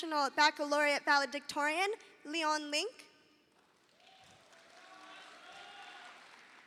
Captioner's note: audience applauding